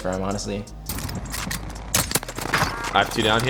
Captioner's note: gun reloads; automatic gun fires